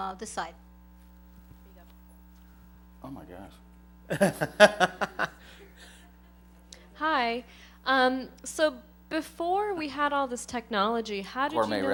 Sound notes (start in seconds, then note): 4.1 laughs